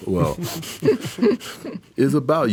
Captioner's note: softly laughing